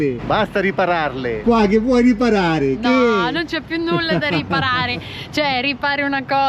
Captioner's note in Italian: risate